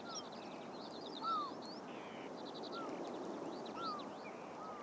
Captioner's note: seagul and distant surf